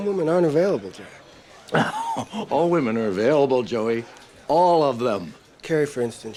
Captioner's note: laughs